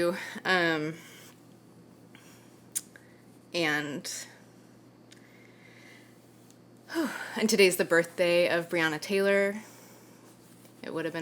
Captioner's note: sighs